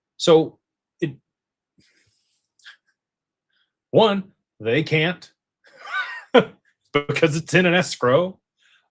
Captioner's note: laughter